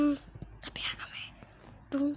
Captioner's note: whisper